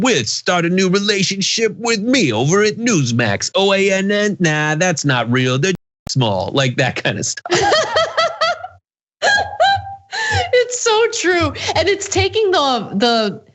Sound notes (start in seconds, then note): 9.2 laugh